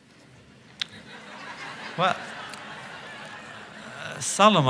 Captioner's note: laughter